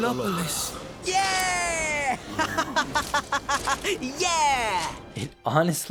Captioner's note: sneering and cheering for himself